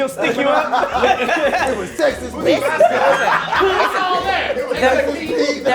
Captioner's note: laughing